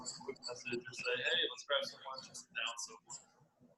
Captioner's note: murmurs